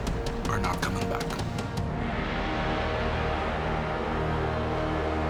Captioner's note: crowd cheering